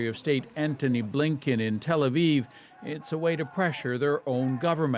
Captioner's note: chants